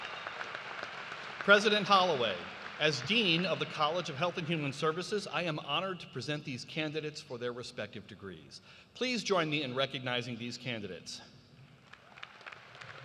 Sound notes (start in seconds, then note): 0.0 cheers and applause